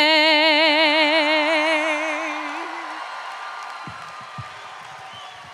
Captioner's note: crowd cheering